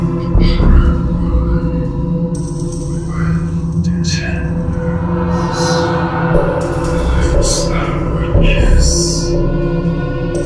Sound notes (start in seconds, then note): 0.1 scary Voice; 7.6 scary Voice